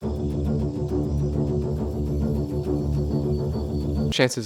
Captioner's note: intense jungle noises